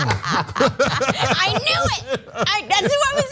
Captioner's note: laugh